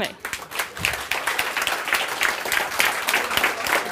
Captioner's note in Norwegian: Applaus